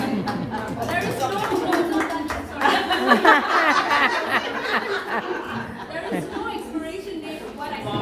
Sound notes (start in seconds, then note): 0.2 applause; 2.6 laughter